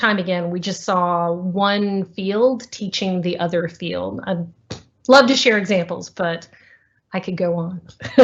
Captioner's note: laughter